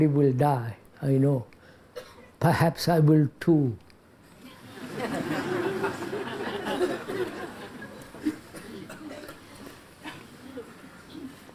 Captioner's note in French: rires